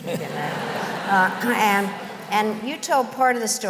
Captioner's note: laughter